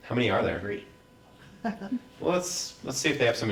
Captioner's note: laugh